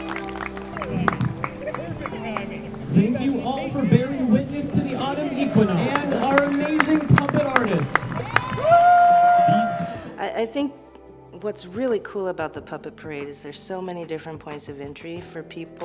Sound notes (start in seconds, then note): 8.4 audience applauding; 8.4 audience cheering